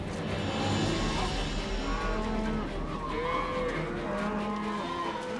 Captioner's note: cattle moo